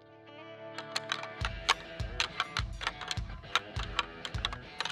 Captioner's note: antlers rattling